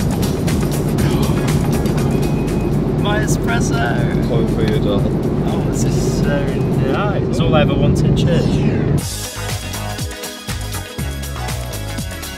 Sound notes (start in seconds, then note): 1.4 gasps; 8.4 upbeat fun music